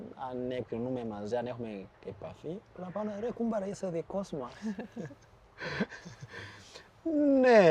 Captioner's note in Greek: γέλια